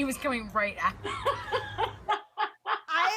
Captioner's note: laughter